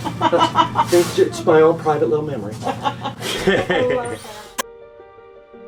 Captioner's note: laughs